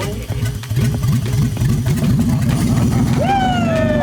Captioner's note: car engine gurgling